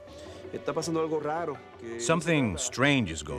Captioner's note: speaking spanish